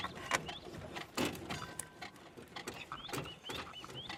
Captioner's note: parts rattling